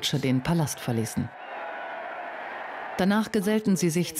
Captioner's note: crowd cheering